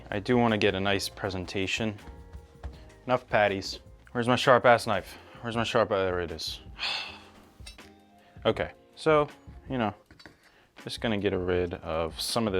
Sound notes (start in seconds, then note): 6.7 sighs